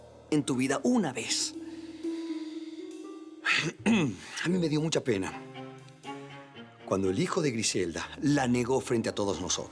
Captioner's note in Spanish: Carraspea